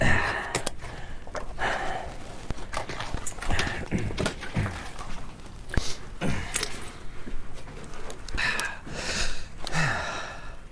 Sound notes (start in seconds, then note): 0.3 Pete grunting; 2.9 stones clattering